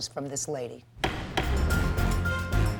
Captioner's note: gavel thuds; suspenseful music